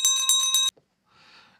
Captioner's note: bell ringing